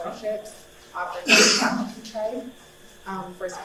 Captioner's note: speaks under coughing